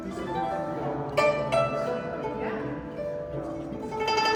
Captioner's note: crowd chattering